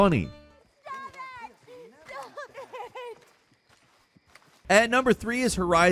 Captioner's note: sobbing